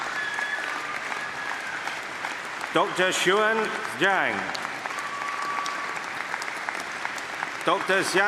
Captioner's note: applause